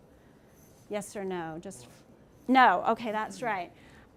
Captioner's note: speaking from off mic